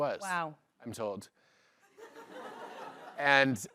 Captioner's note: laughter